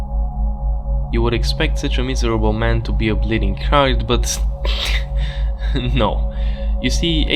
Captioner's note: laugh